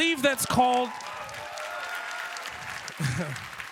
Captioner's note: applause